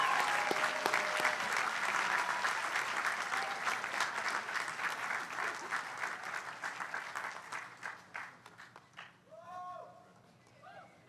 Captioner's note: applause